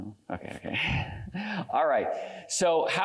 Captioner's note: laughs